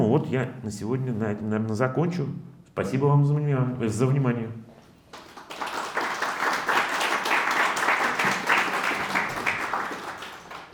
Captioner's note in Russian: аплодисменты